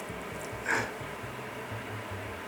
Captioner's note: chuckles